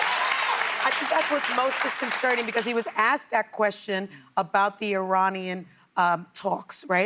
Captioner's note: applause